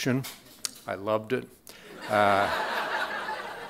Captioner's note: crowd laughing